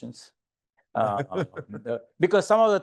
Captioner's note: laughing